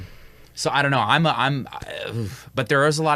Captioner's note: gasps